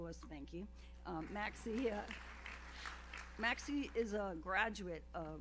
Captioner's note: audience applauds